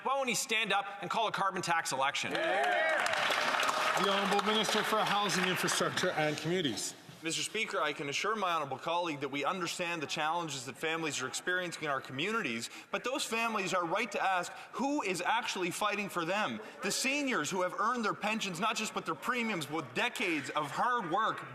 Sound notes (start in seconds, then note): 5.5 some Applause